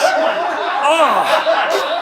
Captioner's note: crew laughs